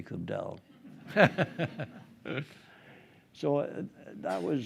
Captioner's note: group laughing